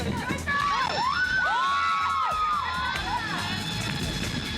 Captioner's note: scream in unison